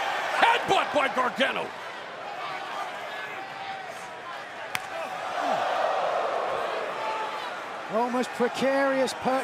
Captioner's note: crowd cheering